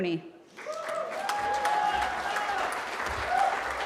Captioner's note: cheering